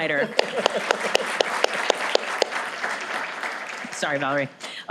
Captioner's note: applause